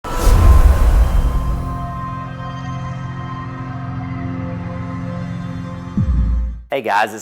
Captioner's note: sound effect